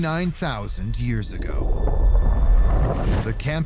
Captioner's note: deep rumble